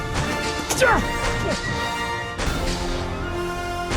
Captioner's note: doctor trips and grunts